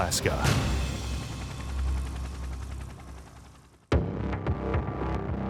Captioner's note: helicopter blades thump; ominous music